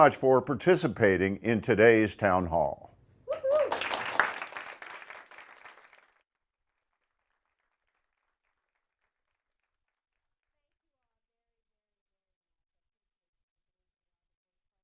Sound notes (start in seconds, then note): 3.3 applause